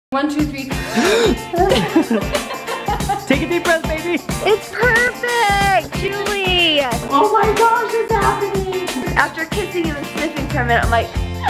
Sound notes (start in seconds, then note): 0.7 breathes in; 1.6 laughs